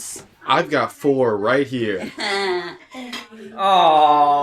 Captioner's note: giggles